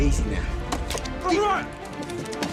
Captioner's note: shouting and grappling